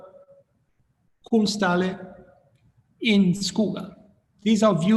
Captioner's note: speaking in foreign language